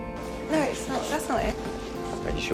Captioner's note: voiceover